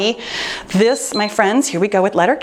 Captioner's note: timer beeps